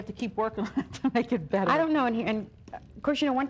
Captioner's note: chuckling